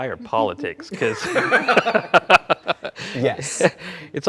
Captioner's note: both laughing